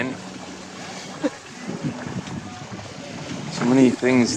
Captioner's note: laughs